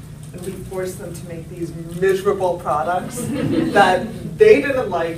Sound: laughter

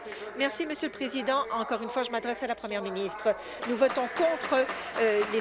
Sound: applause

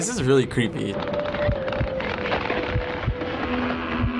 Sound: wooden creaking, heartbeat pulsating

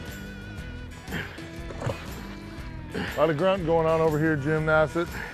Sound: splash

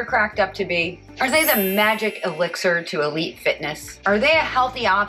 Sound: bell

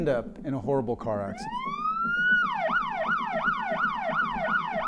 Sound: siren blaring

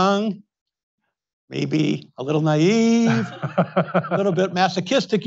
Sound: Tom laughs

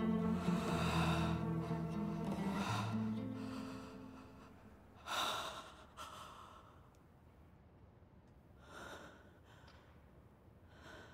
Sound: heavy breathing

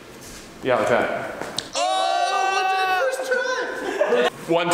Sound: exclaiming

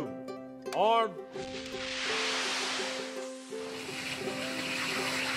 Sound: rocket noise

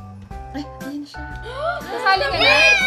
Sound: gasp

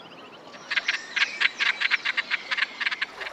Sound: cackling

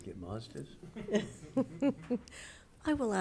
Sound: members laughing

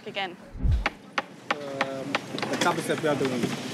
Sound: hammer thumping

